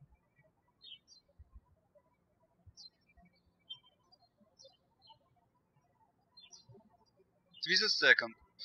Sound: birds chirping

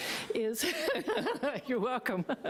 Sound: laughing

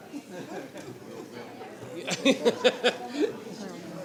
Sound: laughing

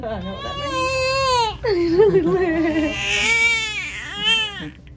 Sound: baby cries

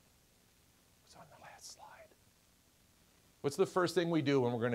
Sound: whispering

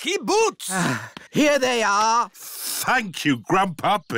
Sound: sighs

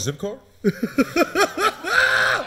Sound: laughing

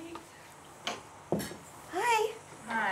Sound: knocks on door

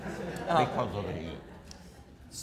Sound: audience laughter

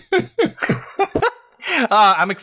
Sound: laughter

